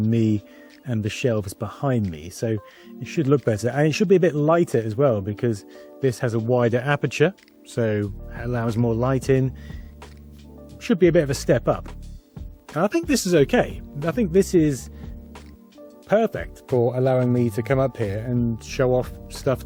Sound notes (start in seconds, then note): none